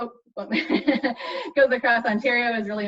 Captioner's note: laughs